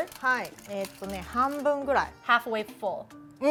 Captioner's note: speaking Japanese